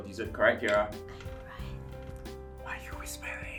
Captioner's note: whispers